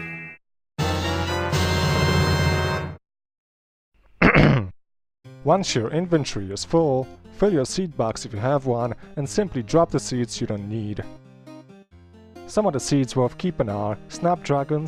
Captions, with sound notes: *clears throat* Once your inventory is full, fill your seed box if you have one, and simply drop the seeds you don't need. Some seeds worth keeping are: -Snapdragons,